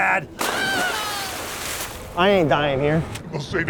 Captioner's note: water splashing; screams